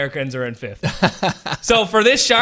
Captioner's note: laughs